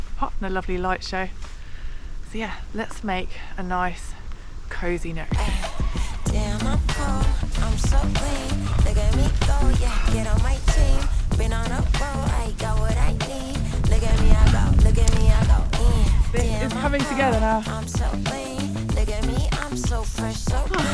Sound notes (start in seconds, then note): 13.9 wind